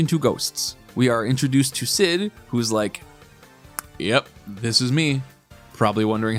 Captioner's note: record scratch